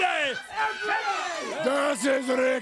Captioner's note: crowd chatter